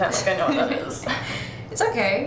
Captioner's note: Petra laughs